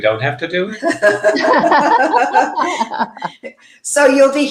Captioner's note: everyone laughing